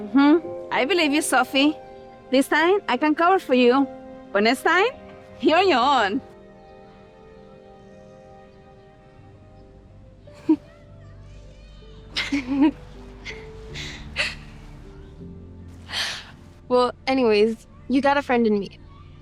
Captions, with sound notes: - Mm-hmm, I believe you, Sophie. This time I can cover for you, but next time, you're on your own. (Sophie laughs) (both laughing) - Well, anyways, you got a friend in me.